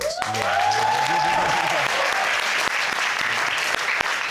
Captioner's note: crowd cheering